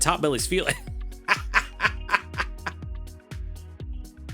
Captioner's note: laughing